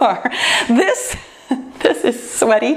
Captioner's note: laughs